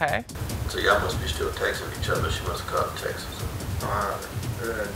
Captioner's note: recording plays